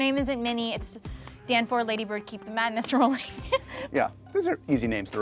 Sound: laughs

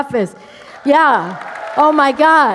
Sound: cheers, applause

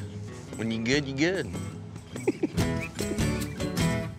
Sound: chuckling

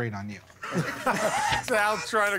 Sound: laughter

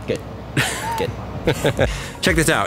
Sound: laughing

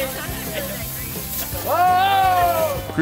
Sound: shouting!

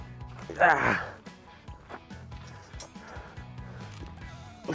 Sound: grunting

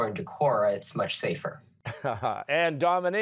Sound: chuckles

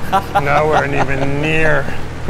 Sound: laughing

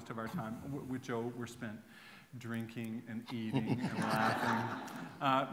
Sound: laughter

